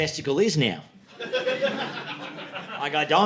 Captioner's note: audience laughing